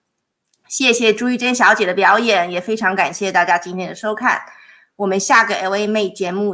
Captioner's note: speaking in foreign language